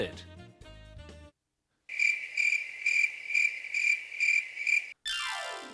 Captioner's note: crickets chirp